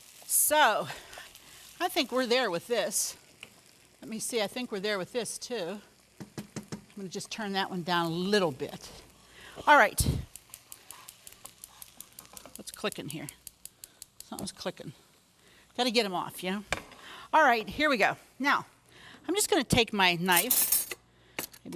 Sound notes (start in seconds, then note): 10.2 stove burner clicking